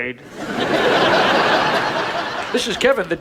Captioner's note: audience laughs